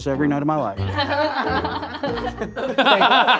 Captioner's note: all laughing